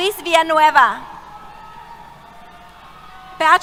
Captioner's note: cheers